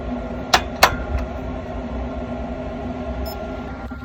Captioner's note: probe beeps